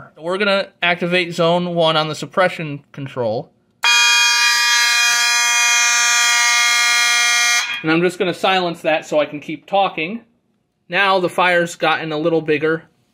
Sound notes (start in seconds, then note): 3.8 constant horn and high-pitched electronic sounder